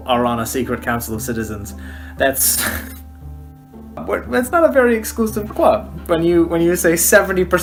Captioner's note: laughing